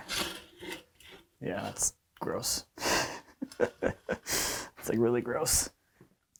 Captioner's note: chuckles